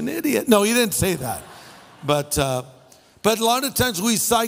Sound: laughter

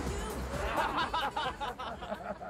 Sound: men laughing

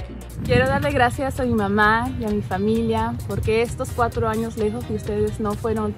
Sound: speaks in foreign language

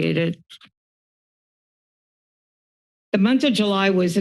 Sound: silence

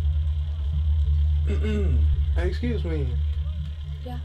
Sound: clears throat

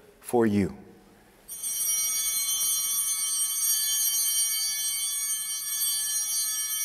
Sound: altar bell ringing

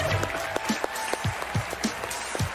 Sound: cheers and applause

